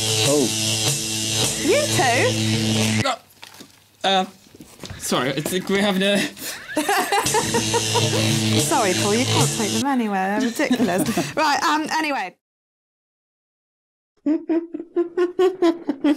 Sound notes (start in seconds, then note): 5.8 laughs; 14.2 laughs